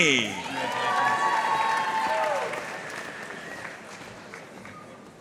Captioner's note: audience cheering and applauding